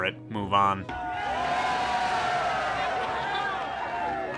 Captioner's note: crowd cheers